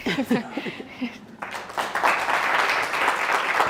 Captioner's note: applause